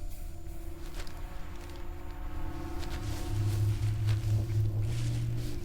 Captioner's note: footsteps on plastic